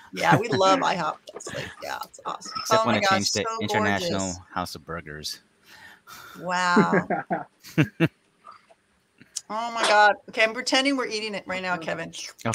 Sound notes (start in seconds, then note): 6.7 laughing